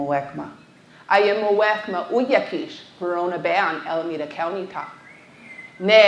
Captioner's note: speaking foreign language